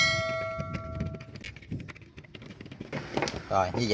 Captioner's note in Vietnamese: chuông